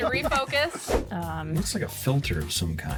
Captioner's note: wind whooshes